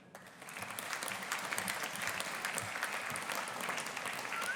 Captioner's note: audience applauding